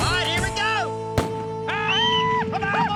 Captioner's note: starting gun fires; whistling, shouting